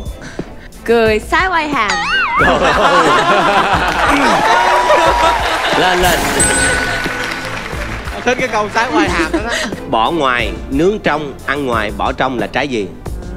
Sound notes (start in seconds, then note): 2.4 jaw-opening laughing; 9.1 jaw-opening laugh